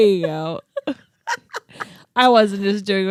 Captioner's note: laughs